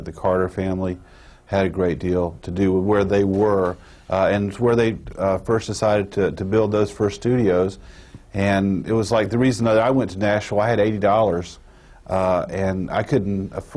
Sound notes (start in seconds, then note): none